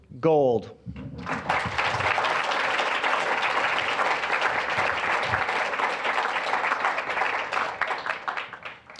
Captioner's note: applause